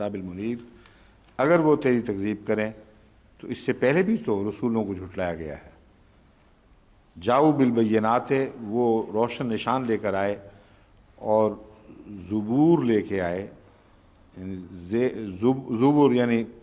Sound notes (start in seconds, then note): 0.0 Arabic; 7.0 Arabic